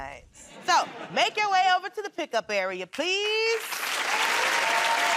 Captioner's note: laughter